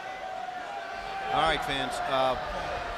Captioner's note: crowd chatter